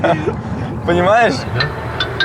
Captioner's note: laughing